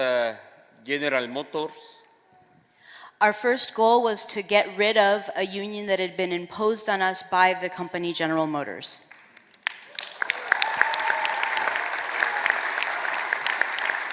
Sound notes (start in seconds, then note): 0.6 speaking spanish